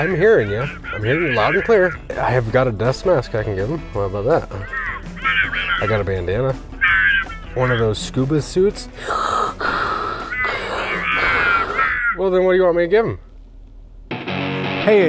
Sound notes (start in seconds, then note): 8.9 man deep breathing